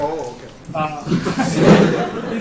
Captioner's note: laughter